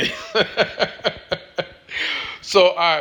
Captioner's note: laughs